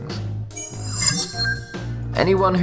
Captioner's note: sharp chiming